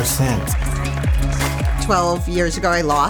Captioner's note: applause